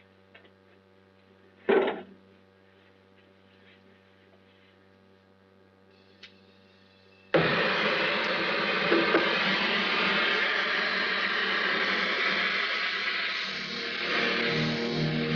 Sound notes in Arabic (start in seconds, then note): 7.2 صوت الموقد